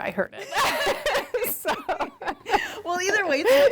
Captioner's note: laughs